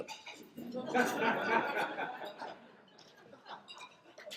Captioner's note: laughter